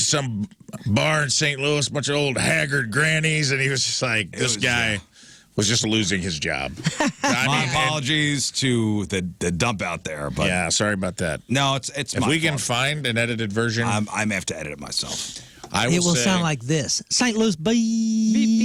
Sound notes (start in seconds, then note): 6.8 laughing